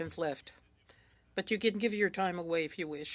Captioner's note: speaking French